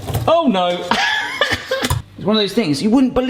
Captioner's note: laughs